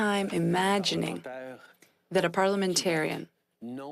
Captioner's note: speaking French